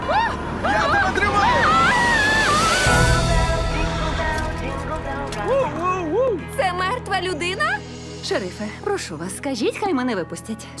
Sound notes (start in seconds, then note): 0.0 screams; 1.2 Tad exclaims